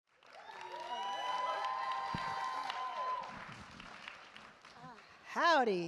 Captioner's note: attendees applaud; attendees cheering